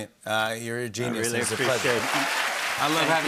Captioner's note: cheers and applause